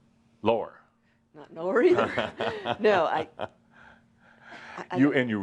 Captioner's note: they laugh